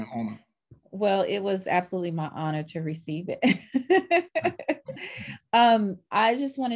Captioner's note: laughing